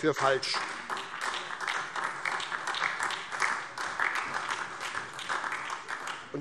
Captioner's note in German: Beifall SPD und DIE LINKE